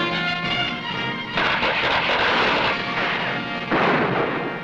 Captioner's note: tense music; gunshots blasting